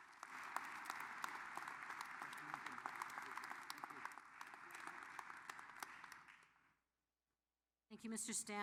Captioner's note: applause